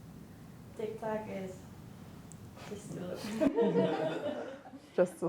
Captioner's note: laughter